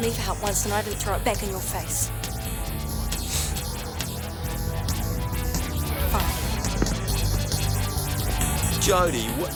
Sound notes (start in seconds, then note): 3.3 John sniffs